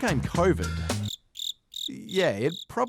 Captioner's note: crickets chirp